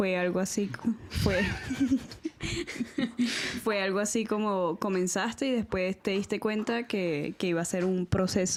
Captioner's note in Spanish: risas